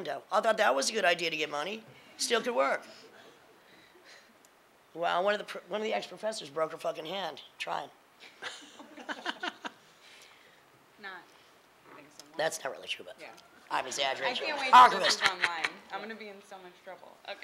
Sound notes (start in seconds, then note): 2.8 laughing; 8.3 laughing